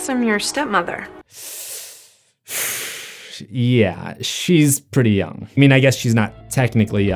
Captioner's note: breathing through teeth